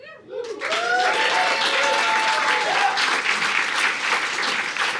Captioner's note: audience applauding